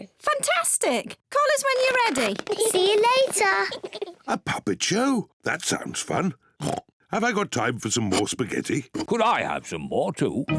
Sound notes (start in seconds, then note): 8.0 oinks